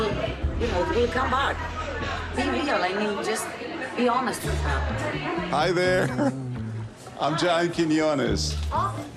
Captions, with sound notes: Yeah. I mean, just... Hi, there. [ Chuckles ] I'm John Quiñones.